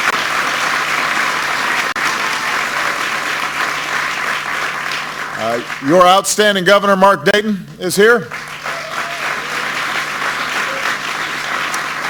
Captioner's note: applause